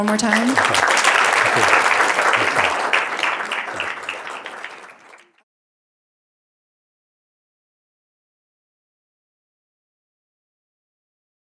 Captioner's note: applause